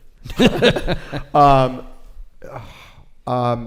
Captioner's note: laughs